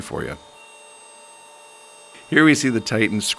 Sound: Titan whining

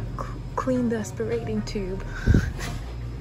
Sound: giggles

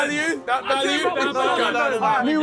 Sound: team chattering

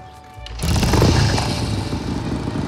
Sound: motorcycle revs

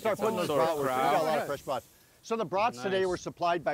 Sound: group chatter

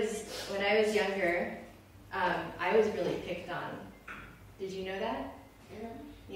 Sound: kids talking

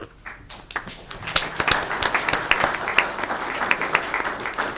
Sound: audience clapping

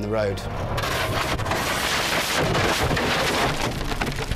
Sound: crashing

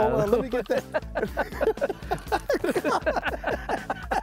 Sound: both laughing

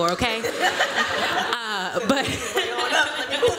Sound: laughter

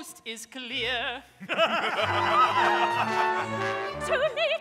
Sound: pirates laughing

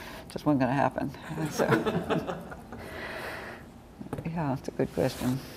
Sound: laughter

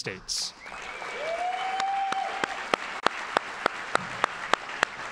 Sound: audience applauding

